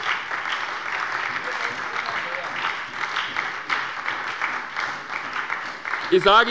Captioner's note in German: Beifall bei der SPD